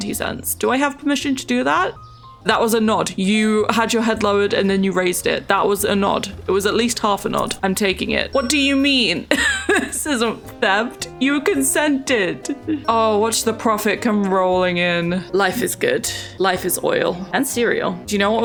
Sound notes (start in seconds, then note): 8.6 laughs